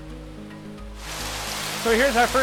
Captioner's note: splashing